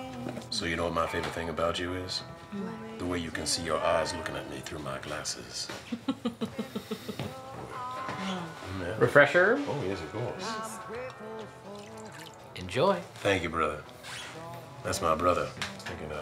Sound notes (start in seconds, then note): 5.8 woman laughs